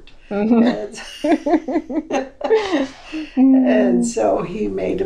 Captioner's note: laughter